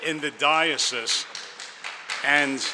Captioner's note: audience applauds